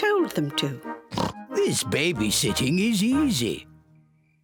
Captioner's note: oinks